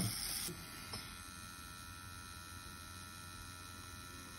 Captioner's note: machine buzzing